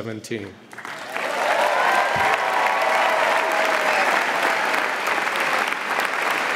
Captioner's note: audience applauding and cheering